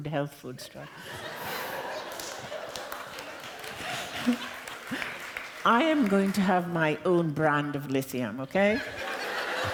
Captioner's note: laughter